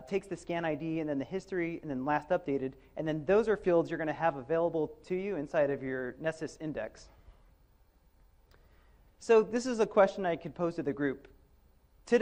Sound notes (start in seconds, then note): none